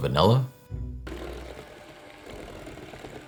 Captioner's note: mixer running